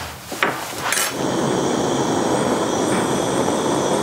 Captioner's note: hissing